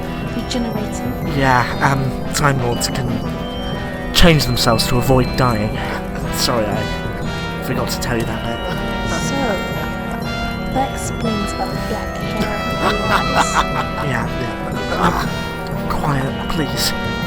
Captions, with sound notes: “Regenerating?” Yeah, Time Lords can... change themselves to avoid dying…. Sorry, I… forgot to tell you that bit. (quietly) So.. that explains about the black hair and the blue eyes? (QUIETLY) So.. that explains about the black hair and the blue eyes? (THE MASTER LAUGHS) (QUIETLY) Yes, yes. Now, (THE MASTER LAUGHS) (QUIETLY) quiet please.